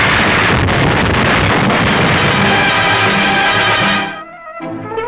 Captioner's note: explosives blasting; thrilling orchestral music